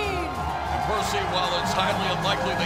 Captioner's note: crowd cheering